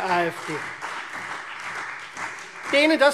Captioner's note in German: Beifall Freie Demokraten, vereinzelt CDU und BÜNDNIS 90/DIE GRÜNEN